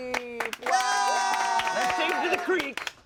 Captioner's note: everyone applauds